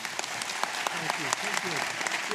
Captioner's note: applause